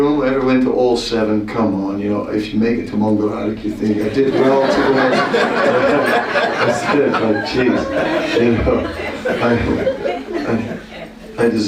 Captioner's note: laughter